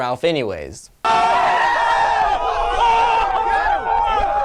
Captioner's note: crowd screams